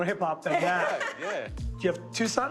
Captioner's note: laughs